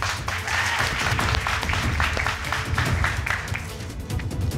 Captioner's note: crowd clapping